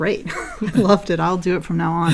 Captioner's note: laugh